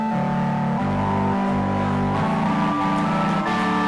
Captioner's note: audience applauding; audience cheering